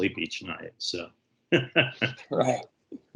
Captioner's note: laughs